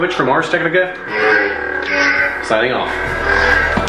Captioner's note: electronic buzzing